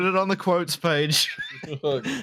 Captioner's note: laughter